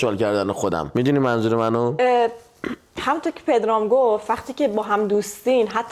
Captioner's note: clears throat